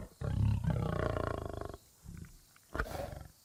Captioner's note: lion snarling